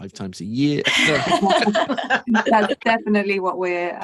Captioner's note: everyone laughing